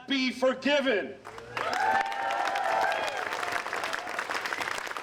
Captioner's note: applause